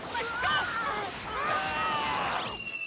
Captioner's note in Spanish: todos gritando